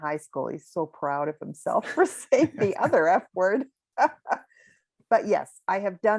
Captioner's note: laughs